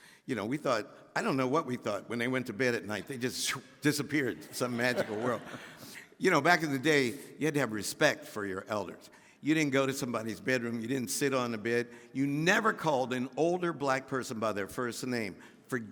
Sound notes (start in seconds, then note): 4.4 laughing; 6.2 audience laughing